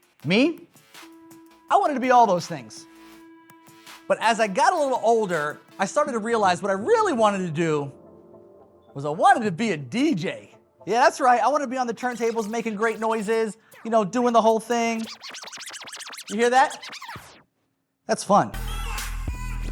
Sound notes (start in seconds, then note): 14.4 scratching